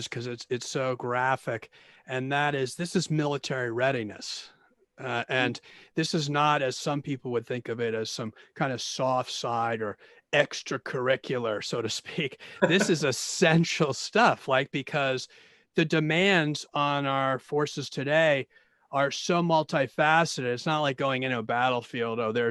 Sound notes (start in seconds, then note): 12.5 laughing